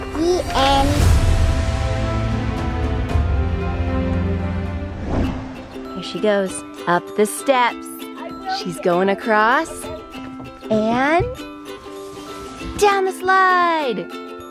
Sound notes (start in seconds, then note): 2.0 uplifting music; 5.5 fun music; 8.0 chatters; 14.2 fun music